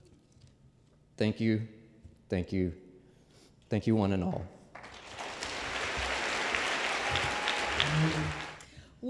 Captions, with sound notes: Thank you. Thank you. Thank you, one and all. (Applause)